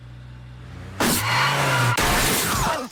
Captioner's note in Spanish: motor del vehículo zumbando